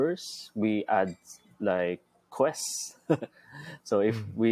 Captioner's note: chuckles